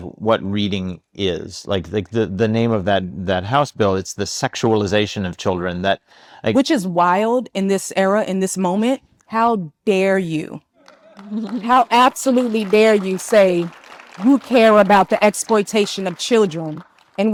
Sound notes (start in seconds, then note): 10.8 attendees laughing and applauding